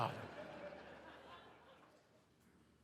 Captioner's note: audience laughs